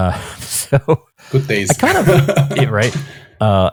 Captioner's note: laughs